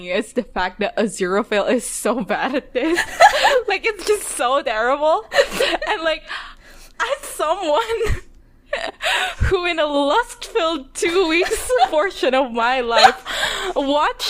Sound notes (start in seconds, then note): 2.8 laughs; 12.8 laughing